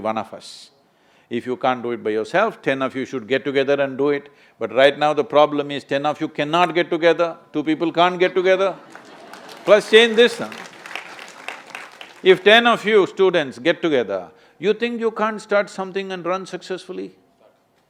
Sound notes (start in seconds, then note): 11.3 applause